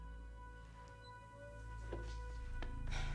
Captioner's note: footstep